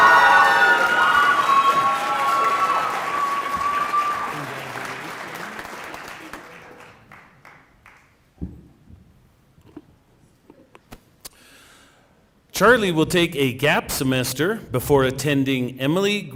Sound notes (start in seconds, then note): 3.4 cheering and applause